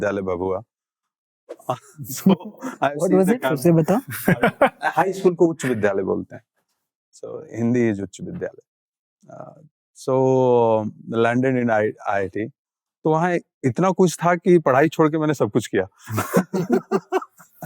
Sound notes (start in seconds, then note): 3.9 chuckles; 4.1 speaking in Hindi; 16.0 chuckles